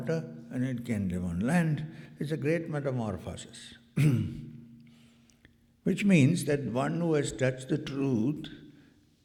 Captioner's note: clears throat